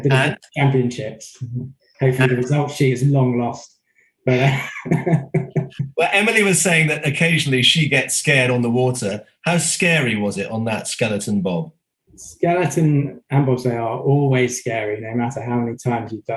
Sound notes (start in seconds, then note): 4.2 laughing